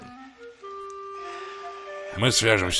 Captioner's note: sighs